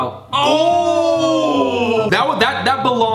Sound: both yelling

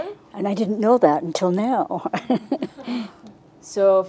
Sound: laughs

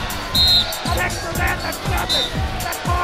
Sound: whistle blowing

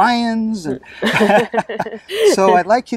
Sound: both laugh

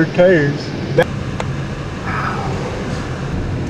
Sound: whispering

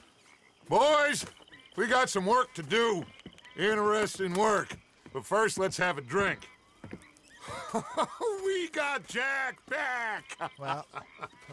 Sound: laughs

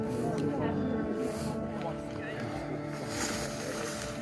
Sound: people chattering

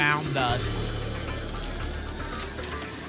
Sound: coins jingling

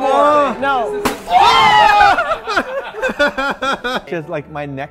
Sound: pops; laughter

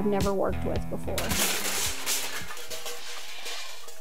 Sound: clanging pots and pans

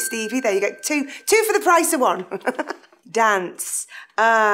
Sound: laughs

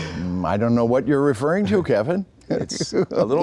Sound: humming; laughing

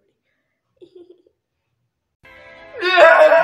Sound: intensified fake-crying

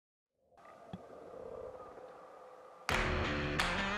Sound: soft wind

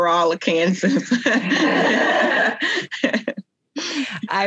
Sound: both laugh

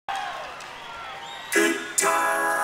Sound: audience cheering

